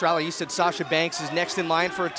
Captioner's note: cheers & boos